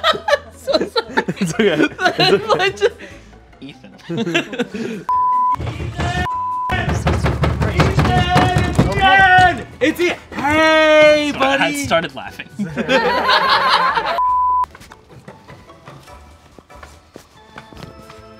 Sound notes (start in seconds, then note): 5.1 high pitched beep; 6.7 banging on door; 12.5 all laughing; 14.2 high pitched beep; 14.6 gentle music